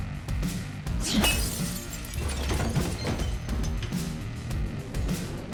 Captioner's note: bottle shatters